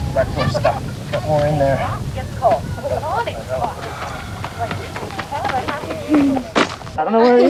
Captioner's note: people chatting